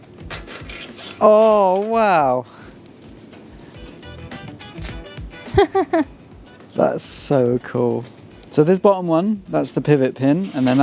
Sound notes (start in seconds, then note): 5.4 laughs